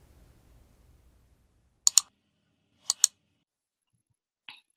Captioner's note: mouse clicking